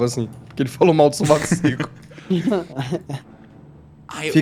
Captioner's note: laughing